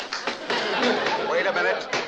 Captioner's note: Addamses applaud; banging gavel